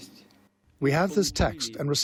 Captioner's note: through translator